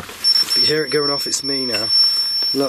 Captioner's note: alarm ringing